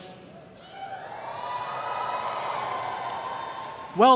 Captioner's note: cheering